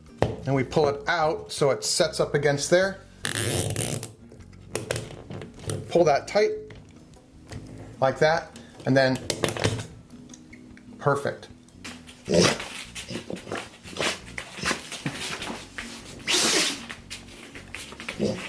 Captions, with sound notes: and we pull it out so it sets up against there. Pull that tight. Like that, and then perfect. (dog grunts)